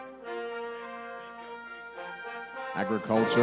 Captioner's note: none